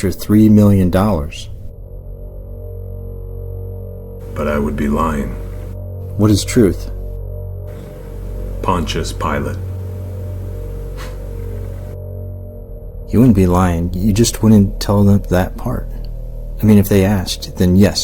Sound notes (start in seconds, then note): 10.4 chuckle